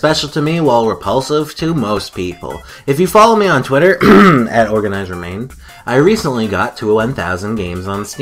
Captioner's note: cough